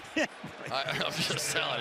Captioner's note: laughs